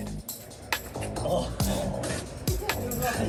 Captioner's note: laughs